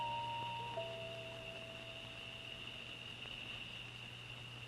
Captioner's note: insects chirping